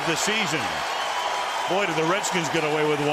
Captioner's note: cheering